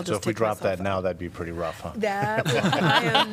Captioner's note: laughter